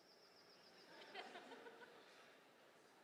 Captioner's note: laughter